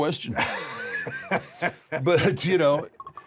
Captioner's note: laugh